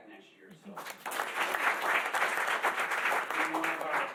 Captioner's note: applause